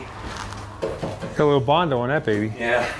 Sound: hollow knocking

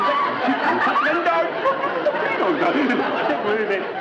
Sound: singing; audience laughs

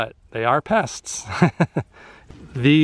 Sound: laughter

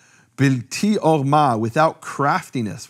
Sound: speaking in foreign language

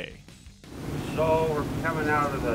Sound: boat engine running

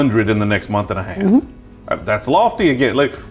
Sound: humming

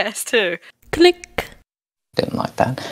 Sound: click

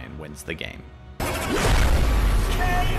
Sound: loud crash

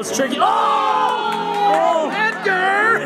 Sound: group shouts

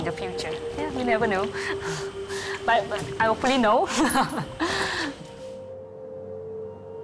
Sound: laughs

